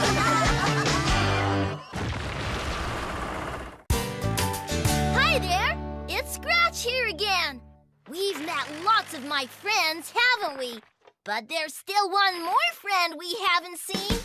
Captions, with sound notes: ( Rocks Clattering ) ( Rumbling ) HI THERE! IT'S SCRATCH HERE AGAIN! WE'VE MET LOTS OF MY FRIENDS, HAVEN'T WE? BUT THERE'S STILL ONE MORE FRIEND WE HAVEN'T SEEN!